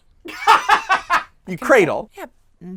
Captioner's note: laughing